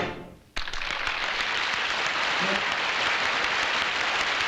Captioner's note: applause